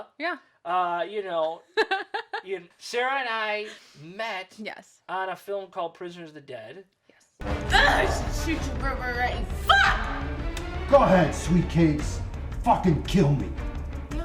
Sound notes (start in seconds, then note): 1.7 laughing; 7.6 groans